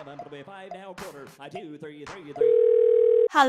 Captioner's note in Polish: dzwoni